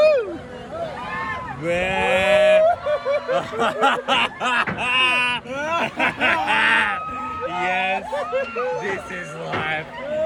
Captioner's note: laugh